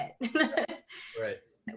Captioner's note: laughing